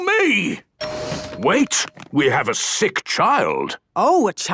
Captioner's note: door dings open